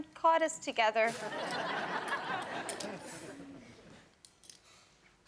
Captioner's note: audience laughing